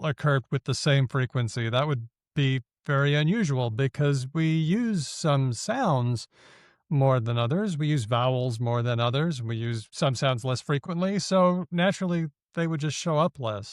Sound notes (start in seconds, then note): none